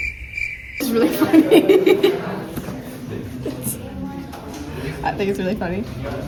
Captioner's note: laughter